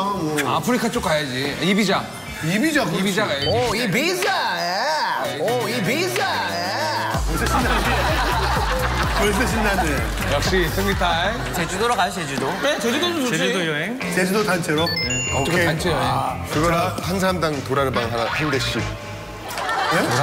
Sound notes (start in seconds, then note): 6.5 laugh